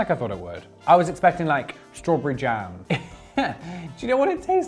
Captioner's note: laughs